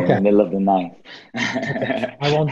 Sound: Shahar laughs

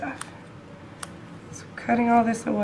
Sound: clipping sounds

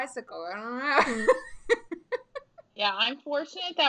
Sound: laughing

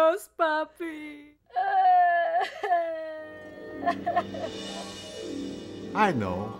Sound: Veronica cries

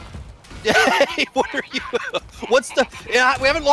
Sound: laughs

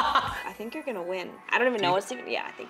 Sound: laughs

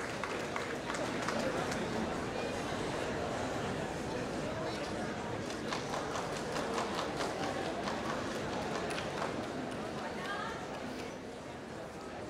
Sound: applause

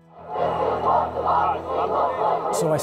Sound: crowd chanting

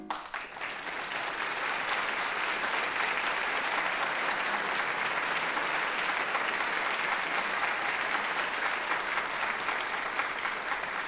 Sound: applause

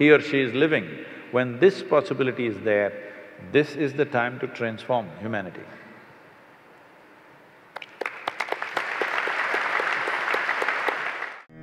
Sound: applause

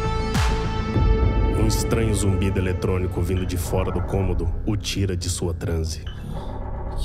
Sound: muffled mechanical noises

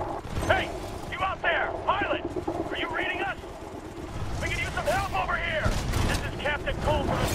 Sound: radio

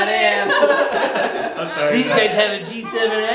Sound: laughing

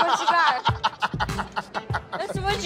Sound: laughter

